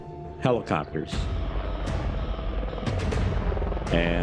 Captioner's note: helicopters buzzing distantly